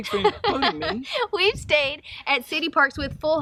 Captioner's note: laughs